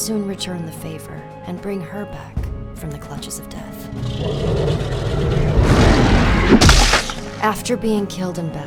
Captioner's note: roar, crunch